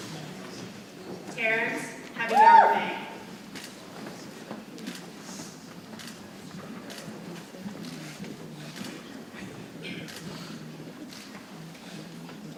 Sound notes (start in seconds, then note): 2.2 cheering drowns out speaker; 6.8 people chattering softly